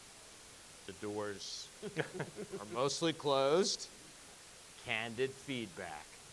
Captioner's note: judges chuckling